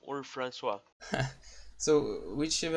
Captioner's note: laughs